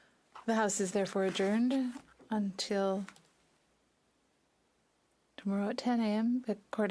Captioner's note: speaking French